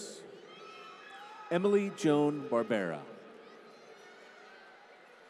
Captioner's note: applause